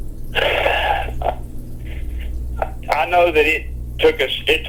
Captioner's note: sighs